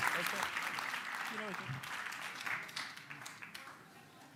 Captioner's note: applause fades